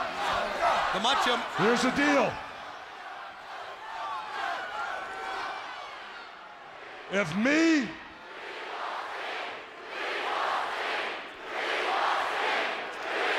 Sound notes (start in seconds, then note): 4.0 audience cheering